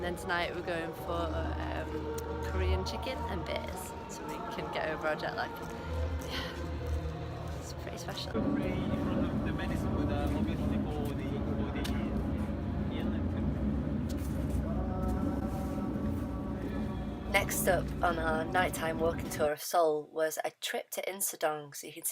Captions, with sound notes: And then tonight, we're going for Korean chicken and beers, so we can get over our jet lag. [Sighs] Yeah! It's pretty special! Next up on our nighttime walking tour of Seoul was a trip to Insa-Dong.